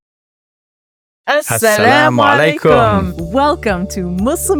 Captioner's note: speaks in Arabic